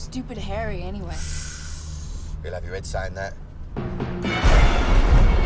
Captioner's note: sighs; thunder rumbling